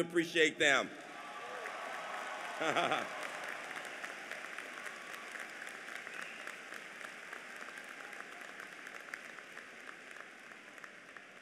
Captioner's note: applause